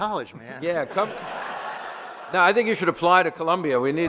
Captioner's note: audience laughter